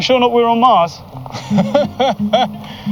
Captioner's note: laughs